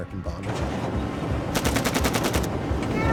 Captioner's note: artillery fire